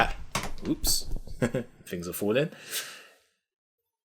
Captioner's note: giggles